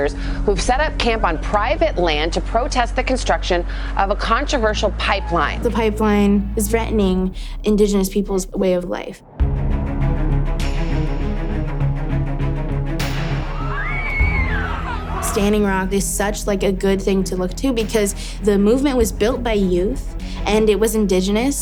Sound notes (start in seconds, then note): 9.3 upbeat music; 13.5 screams